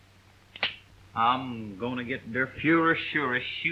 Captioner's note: gun cocks